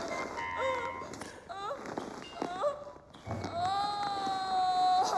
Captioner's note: vinyl rubbing